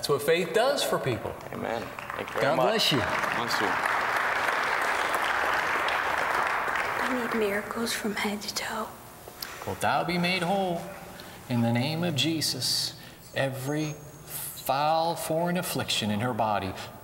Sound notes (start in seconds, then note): 2.0 applause